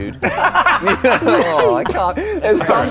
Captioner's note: laughing